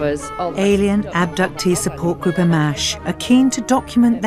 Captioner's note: voiceover